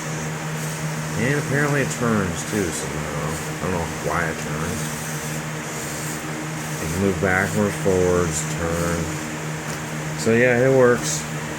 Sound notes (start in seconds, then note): 2.9 robot wheels making sounds